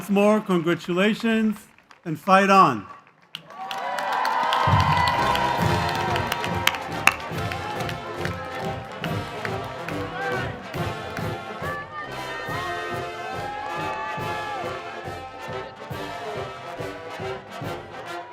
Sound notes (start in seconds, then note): 5.2 cheers